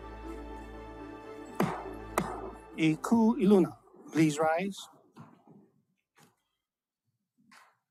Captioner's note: gavel bangs twice